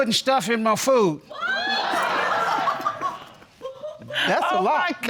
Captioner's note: audience gasping and laughing